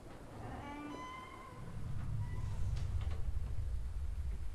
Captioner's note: door creaking